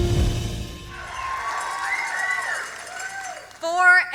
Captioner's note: audience applause